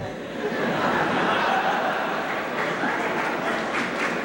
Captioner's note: laughter